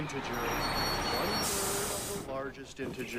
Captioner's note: tires screeching